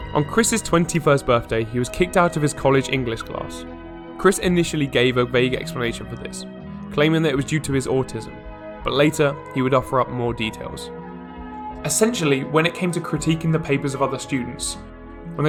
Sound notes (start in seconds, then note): none